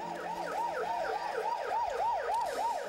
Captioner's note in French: sirènes